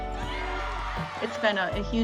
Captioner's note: spectators cheering